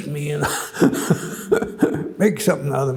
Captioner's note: chuckles